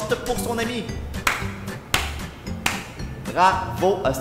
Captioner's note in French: applaudissements lents et sarcastiques